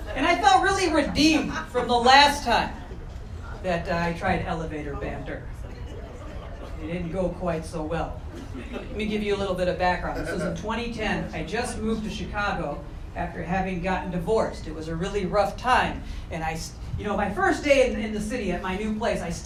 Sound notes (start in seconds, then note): 5.6 audience chuckling; 8.2 audience chuckling